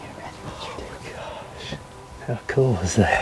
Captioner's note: whispering